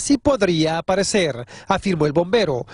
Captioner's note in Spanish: habla en ingés